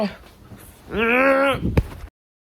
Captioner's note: screaming